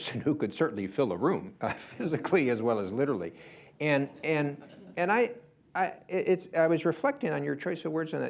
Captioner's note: laughter